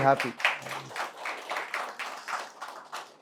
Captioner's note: audience claps